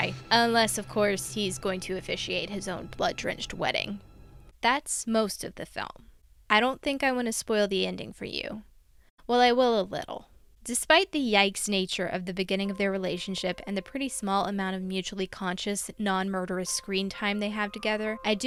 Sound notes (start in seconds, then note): none